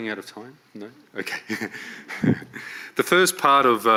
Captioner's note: laughs